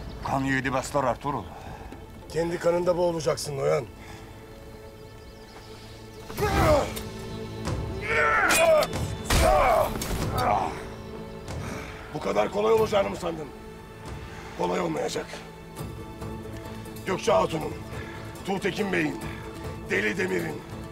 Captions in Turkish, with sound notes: Kan yiğidi besler Ertuğrul. Kendi kanında boğulacaksın Noyan. (Dövüşme sesleri) Bu kadar kolay olacağını mı sandın? Kolay olmayacak. Gökçe Hatun'un, Tuğtekin Bey'in, Deli Demir'in...